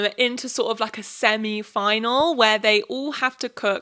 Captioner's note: none